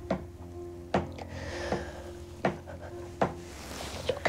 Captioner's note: knocking